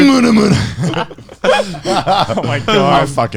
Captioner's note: laughing